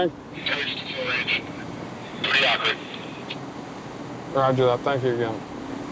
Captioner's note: radio